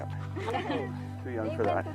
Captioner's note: laughs